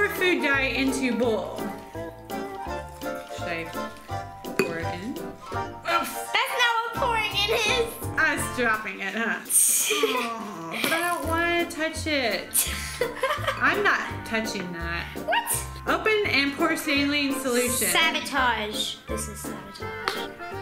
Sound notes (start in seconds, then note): 9.7 laughs; 10.2 groans; 12.6 laughs